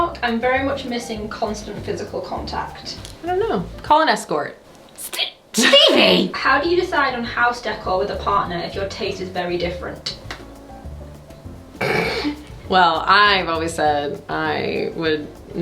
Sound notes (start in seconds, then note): 10.8 bright music; 11.8 laughs